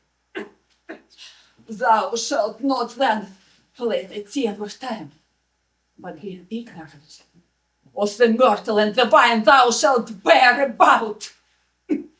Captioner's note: coughing; coughing